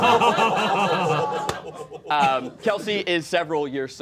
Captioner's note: all laughing